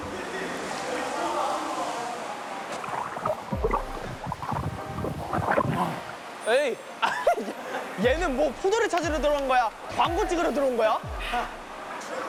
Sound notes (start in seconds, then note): 2.8 struggling